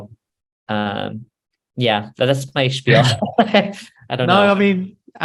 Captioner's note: laughs